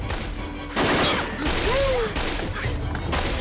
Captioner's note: gunfire